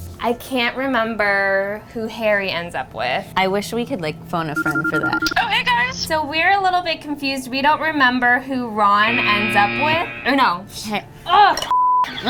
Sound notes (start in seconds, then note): 4.5 phone ringing; 9.2 buzzer